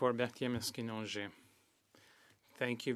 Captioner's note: speaking French